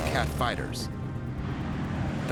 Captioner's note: engine roaring